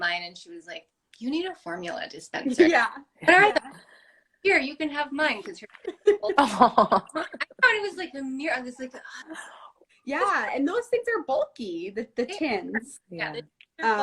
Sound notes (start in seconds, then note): 3.3 laugh; 5.8 laughter